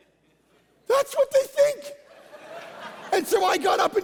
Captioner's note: congregation laughing